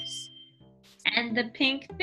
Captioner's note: bell dings